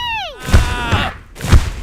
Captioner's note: marker yells